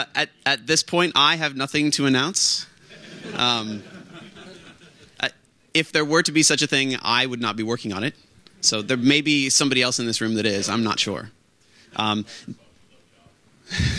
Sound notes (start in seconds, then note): 2.9 laughter from the audience; 13.7 laughs